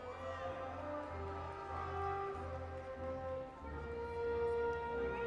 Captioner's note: audience applauding and cheering